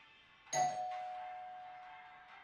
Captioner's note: doorbell chimes